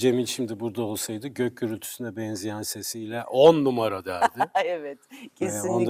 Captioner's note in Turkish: kahkaha